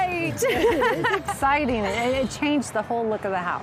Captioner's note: laughing